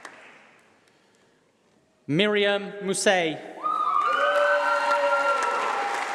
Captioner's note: applause